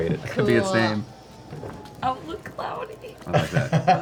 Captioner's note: laughs